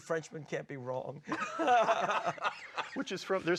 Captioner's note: all laughing